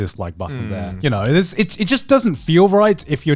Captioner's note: affirmative murmuring